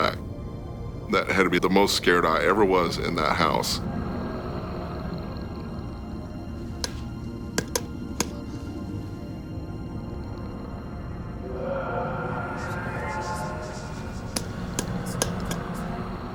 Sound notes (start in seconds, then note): 7.5 tapping light; 8.9 eerie music